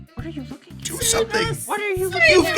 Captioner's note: high-pitched voice